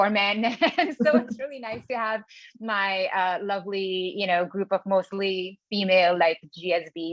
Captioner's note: laugh